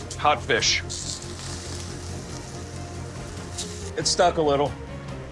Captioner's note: fish sizzling